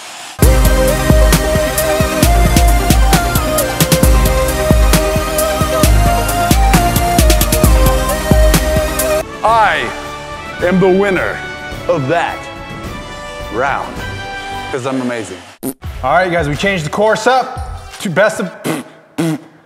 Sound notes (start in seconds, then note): 15.6 pppt!